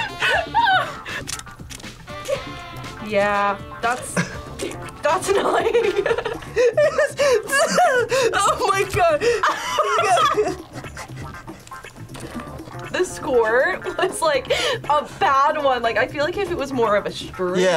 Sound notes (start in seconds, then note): 0.0 laughs; 5.1 laughs; 10.4 laughs